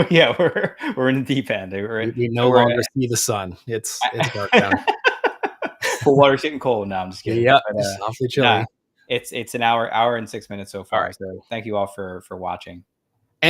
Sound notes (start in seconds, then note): 2.0 laughs